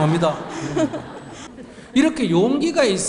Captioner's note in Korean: 청중과 질문자 웃음